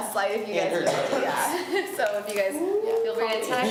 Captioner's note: laughs